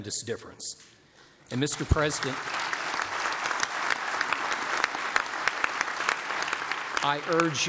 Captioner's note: applause